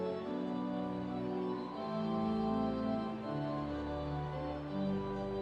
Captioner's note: none